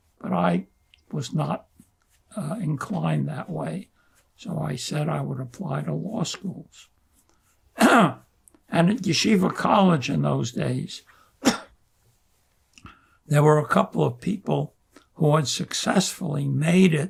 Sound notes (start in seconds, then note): 7.8 clears throat; 11.4 coughing